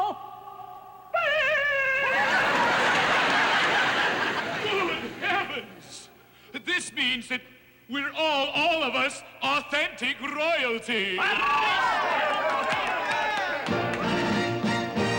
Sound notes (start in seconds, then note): 0.7 crows; 11.4 all cheering; 13.7 triumphant music